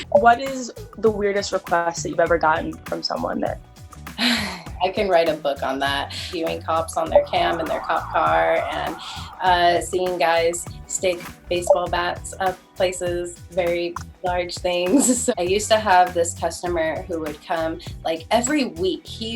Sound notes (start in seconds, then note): 4.1 sighs